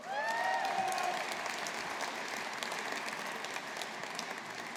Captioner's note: audience applauding